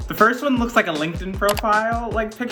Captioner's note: click sound effect